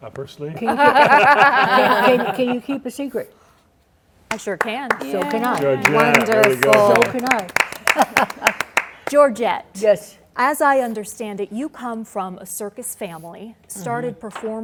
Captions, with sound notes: -Up her sleeve. [laughter] -Can you keep a secret? -I sure can. -So can I. -Wonderful. [clapping] -Georgette, as I understand it, you come from a circus family,